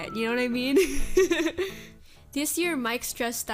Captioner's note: giggles